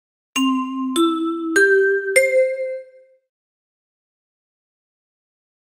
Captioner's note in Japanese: チャイムの音